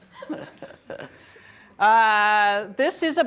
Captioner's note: laughing